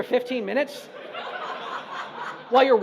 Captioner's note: audience laughs